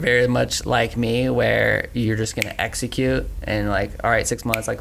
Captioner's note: snaps fingers